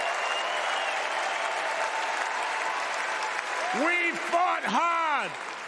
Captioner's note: cheers and applause